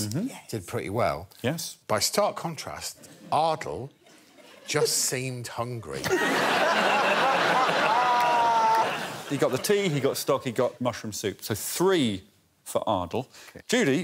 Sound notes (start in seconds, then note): 6.0 laughter